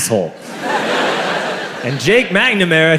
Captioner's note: crowd laughs